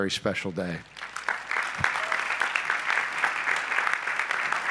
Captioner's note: applause